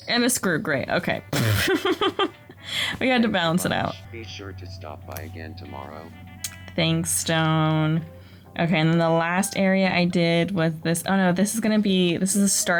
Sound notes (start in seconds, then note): 1.4 laughter; 5.2 game audio